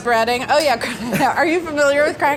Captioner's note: laughs